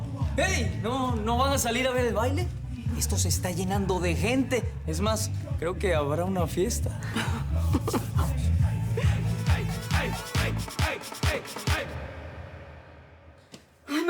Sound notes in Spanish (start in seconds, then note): 8.6 Risas